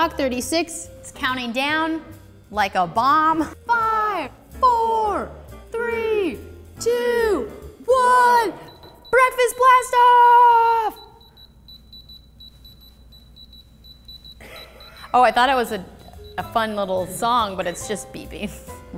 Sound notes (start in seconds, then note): 8.5 beeping; 10.9 beeping; 14.3 crew laughing